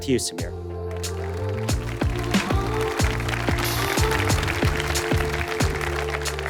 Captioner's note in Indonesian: Tepuk tangan